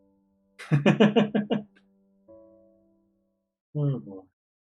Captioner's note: laughs